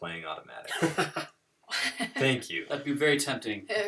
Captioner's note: laughter